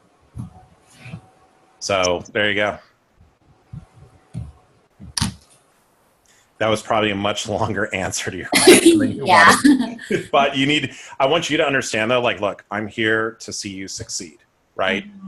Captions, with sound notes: So there you go. That was probably a much longer answer to your -- >> [Laughs] yeah. >> But you need -- I want you to understand that like, look, I'm here to see you succeed, right?